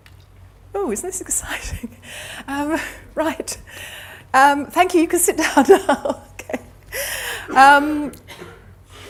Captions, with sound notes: Ooh, isn't this exciting? Right. (laughs) Thank you, you can sit down now. OK.